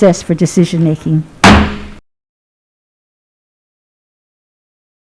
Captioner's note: gavel bangs